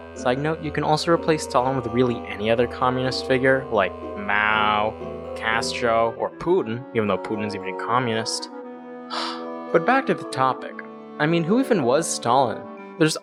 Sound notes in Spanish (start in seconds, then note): 9.1 suspiro